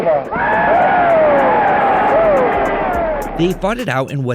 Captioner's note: cheers and applause